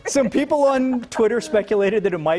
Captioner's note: laughter